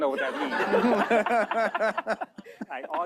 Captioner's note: laughter